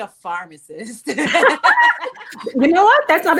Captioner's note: ladies laughing